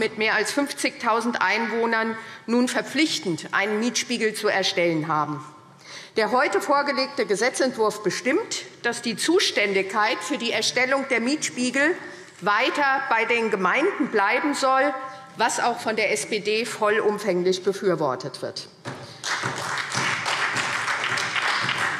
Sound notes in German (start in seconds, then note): 19.0 Beifall SPD